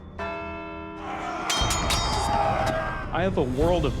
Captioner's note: bell dings; battle sounds